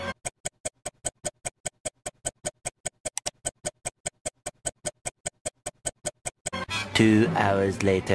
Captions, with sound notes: [Clock Ticking] [Mouse Click] [Clock Ticking] "Two Hours Lateuh..."